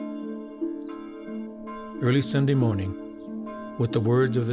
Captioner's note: church bell ringing